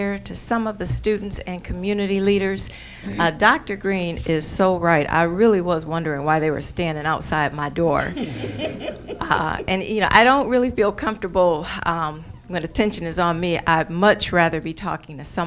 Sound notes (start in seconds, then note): 8.0 audience laughing